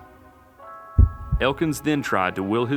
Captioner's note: heart beating